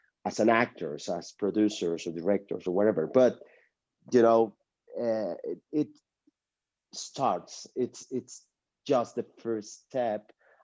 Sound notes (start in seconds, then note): none